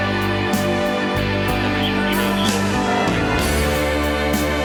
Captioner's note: police radio chatter